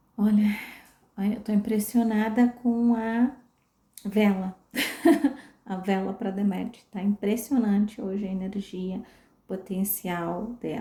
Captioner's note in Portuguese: risadas